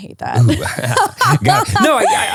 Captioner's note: laughing